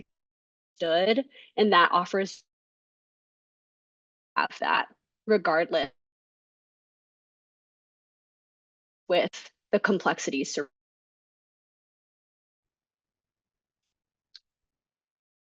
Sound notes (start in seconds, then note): 0.0 audio cuts out; 2.9 audio cuts out; 10.9 audio cuts out